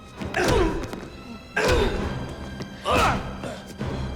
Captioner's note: Dalton grunting; Gammon grunting; blows thudding